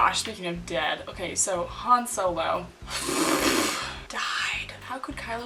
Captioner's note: blows raspberries